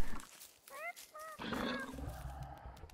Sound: Mandrake meeping

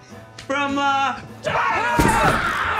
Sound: screams

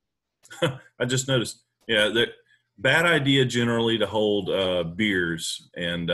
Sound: laughing

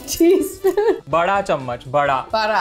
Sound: speaking in Hindi

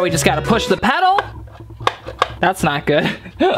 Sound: button clicking fruitlessly; laughing

